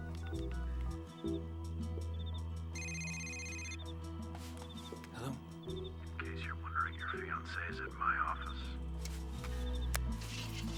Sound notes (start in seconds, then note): 2.7 cell phone rings